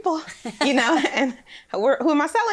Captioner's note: both laugh